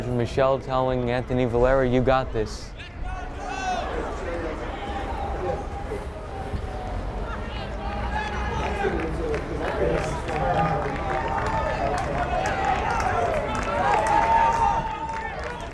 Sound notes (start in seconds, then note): 9.6 crowd cheering and clapping